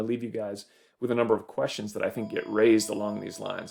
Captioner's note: phone ringing